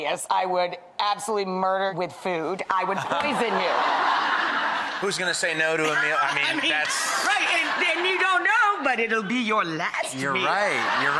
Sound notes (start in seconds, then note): 3.0 audience laughs